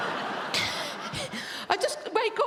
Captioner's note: laughs